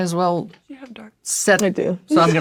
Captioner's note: whispering